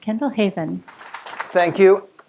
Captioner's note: applause